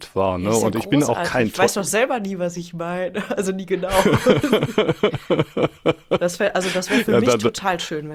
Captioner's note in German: gelächter